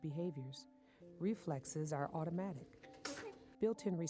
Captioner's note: baby sneezing